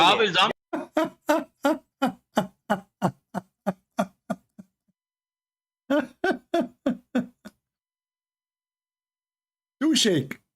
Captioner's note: Ketawa